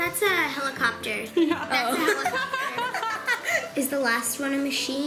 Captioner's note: laughing